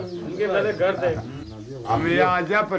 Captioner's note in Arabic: الصوت المنطوق باللغة الأجنبية